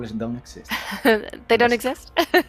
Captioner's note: laughs